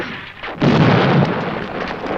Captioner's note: explosion